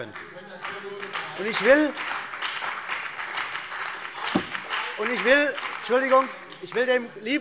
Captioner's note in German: Beifall bei der CDU und dem BÜNDNIS 90/DIE GRÜNEN - Zurufe von der FDP